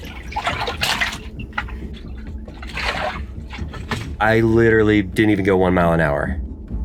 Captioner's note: water bed burbles; suspenseful music continues